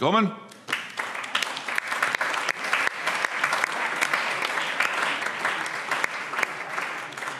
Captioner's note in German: Allgemeiner Beifall